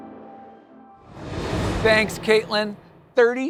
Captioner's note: transition whooshing